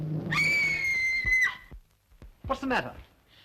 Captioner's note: screaming!